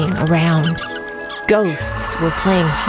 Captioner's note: flapping wings